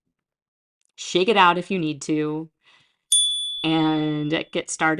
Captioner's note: chime